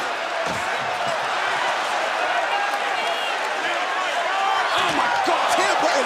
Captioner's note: cheers and applause